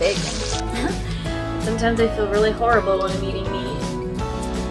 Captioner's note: laughs